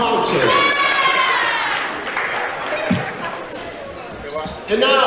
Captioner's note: cheering